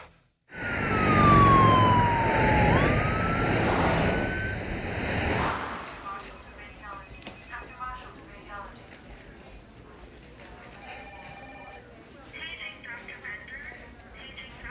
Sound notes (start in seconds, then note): 0.5 sirens wail; 6.2 voices buzz over intercom; 10.8 phone rings